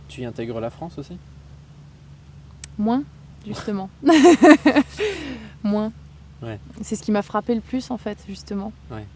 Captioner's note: laughs